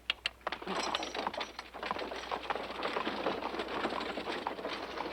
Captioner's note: wagon rattling